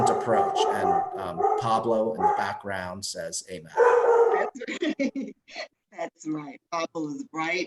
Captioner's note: dog barking